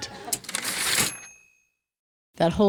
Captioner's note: typewriter ding